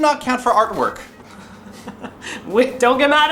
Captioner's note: laughs